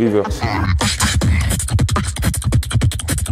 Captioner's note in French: beatbox